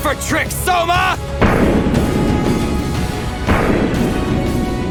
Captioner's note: ground booming